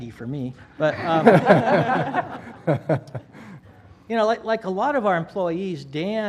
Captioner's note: laugh